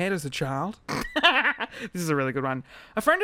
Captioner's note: laughter